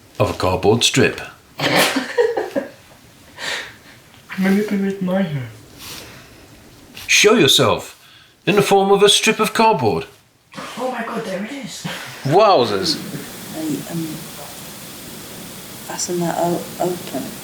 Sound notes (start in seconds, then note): 11.6 laughing